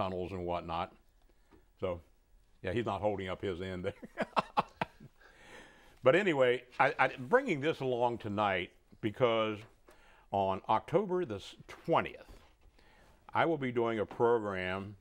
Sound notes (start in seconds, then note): 4.0 laughing